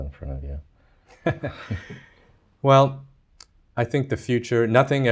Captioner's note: laughs